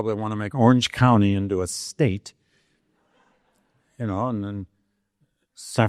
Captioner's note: audience laughing